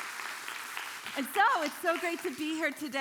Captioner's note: congregation applauding